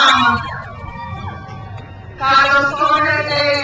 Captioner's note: crowd cheers